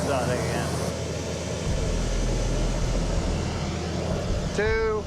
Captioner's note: burner whooshing